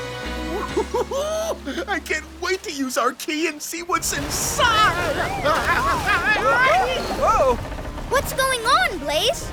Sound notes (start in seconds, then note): 0.5 giggling; 5.2 shouting